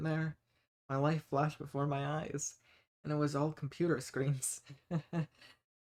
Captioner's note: dry chuckle